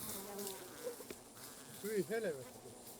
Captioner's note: buzzing in the air